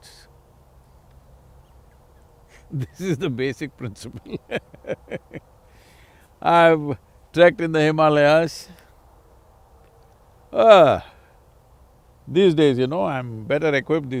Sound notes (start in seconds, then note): 2.4 laughs